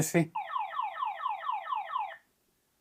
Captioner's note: siren wailing